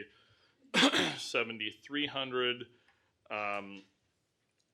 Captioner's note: clears throat